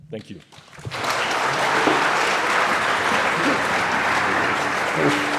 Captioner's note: audience applauding